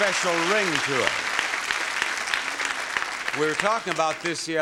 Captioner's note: audience applauding